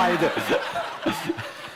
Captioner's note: laughter